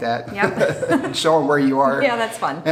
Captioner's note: laughs